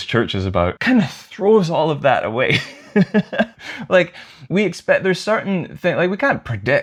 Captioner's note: laughter